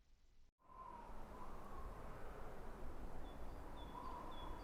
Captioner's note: wind whistling